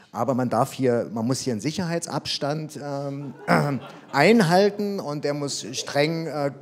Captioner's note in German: Publikum lacht